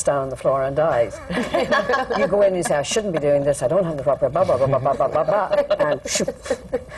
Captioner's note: laughter